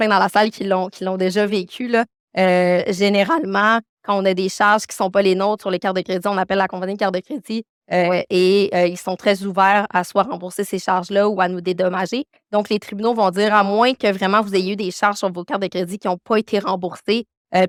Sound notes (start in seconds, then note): 11.5 continues speaking French